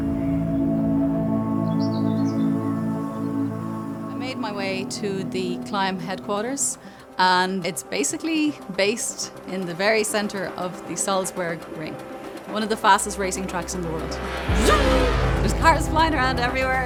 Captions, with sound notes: - I made my way to the Klim headquarters. And it's basically based in the very center of the Salzburg Ring. One of the fastest racing trucks in the world, (motorcycle roaring) There's fastest riders everywhere,